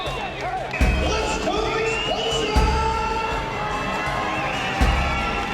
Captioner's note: cheering